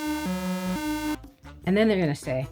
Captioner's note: buzzer